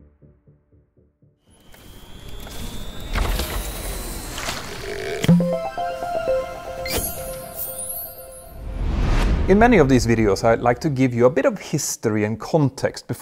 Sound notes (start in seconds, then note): 5.2 playful chime